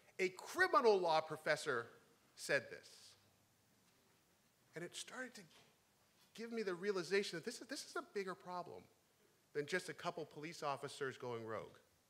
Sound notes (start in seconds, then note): none